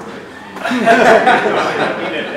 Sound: audience laughs

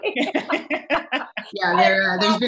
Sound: laughter

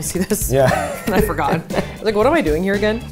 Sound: chuckles; laughing

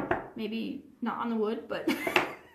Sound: laughs

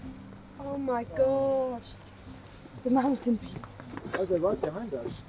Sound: laughs

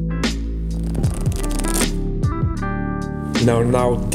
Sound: cards flapping

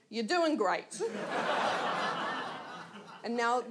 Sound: audience laughs

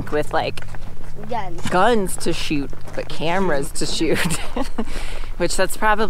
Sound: laughs

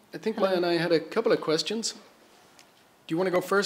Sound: none

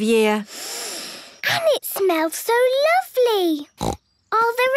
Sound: Peppa inhaling deeply; snorting

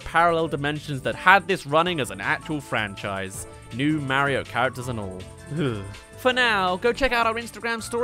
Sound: shudder

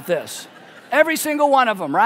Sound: congregation laughing

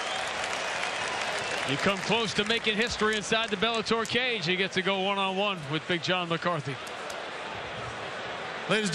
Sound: cheers and applause

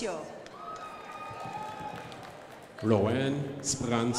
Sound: crowd applauding

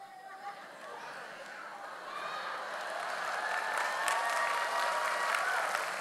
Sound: audience laughs; audience applauds

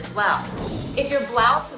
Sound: screen whooshing

